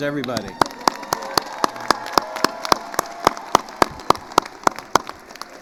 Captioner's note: attendees cheering and applauding